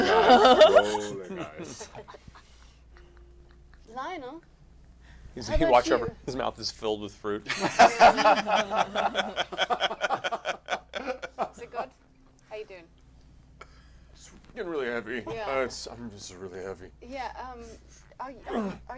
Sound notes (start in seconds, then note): 7.4 laughter